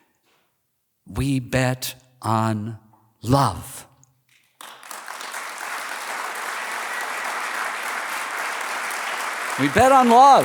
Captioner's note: applause